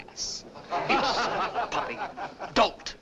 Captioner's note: laughter